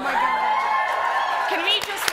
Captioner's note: applause